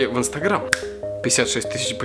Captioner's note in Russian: Щелчок пальцами